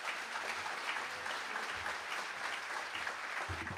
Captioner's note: applause